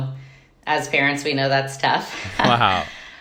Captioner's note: chuckling